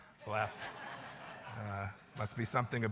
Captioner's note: laughter